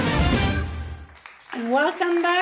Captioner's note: applause